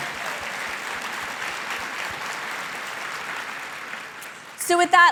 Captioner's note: audience applauding